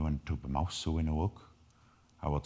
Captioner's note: speaking in foreign language